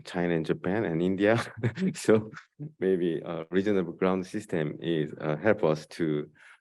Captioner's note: laughs